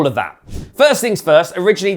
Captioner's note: transition whooshing